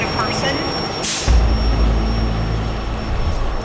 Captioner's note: truck brakes hissing; ominous rumbling music